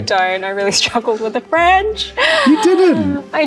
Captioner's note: laughs